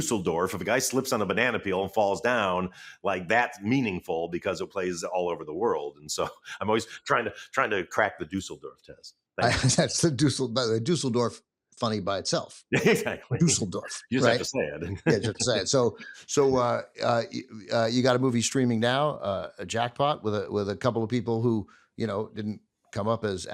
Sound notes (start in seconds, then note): 9.4 chuckles; 12.7 laughs